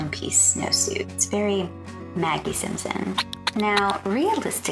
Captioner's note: pacifier sucking SFX